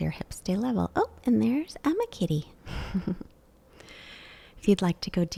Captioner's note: chuckles